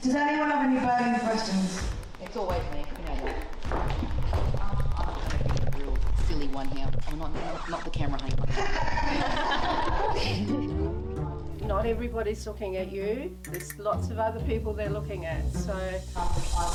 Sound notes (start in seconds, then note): 7.2 record scratching; 8.5 everyone laughing